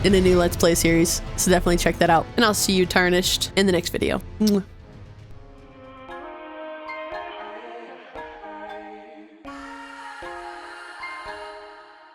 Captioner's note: kiss